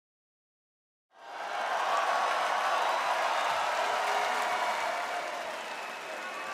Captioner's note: applause